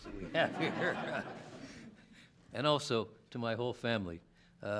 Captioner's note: laughter